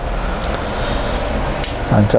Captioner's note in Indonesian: suara suntikan